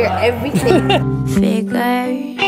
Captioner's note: laughs